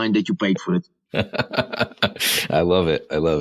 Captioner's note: laughs